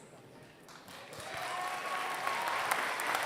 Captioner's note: applause